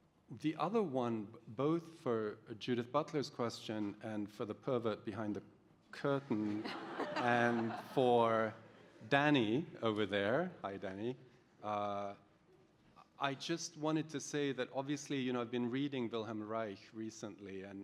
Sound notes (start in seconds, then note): 6.2 laughter